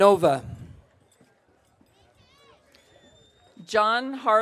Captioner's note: audience cheering